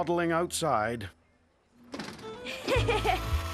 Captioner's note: laughing